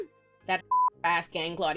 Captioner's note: beep